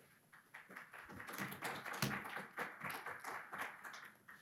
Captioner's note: audience claps